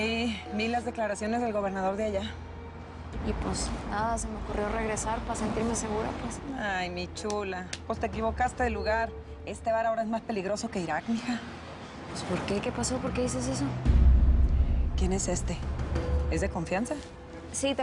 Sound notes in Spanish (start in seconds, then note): 7.2 Palmadas